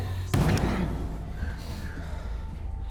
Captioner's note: bangs wall